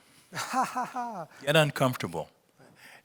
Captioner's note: laughs